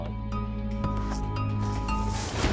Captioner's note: gentle instrumental music; footsteps shuffle